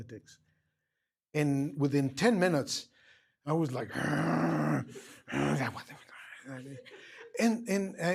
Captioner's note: muttering